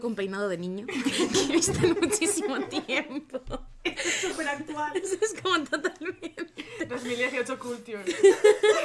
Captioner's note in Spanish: risas